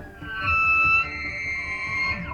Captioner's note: elk bugling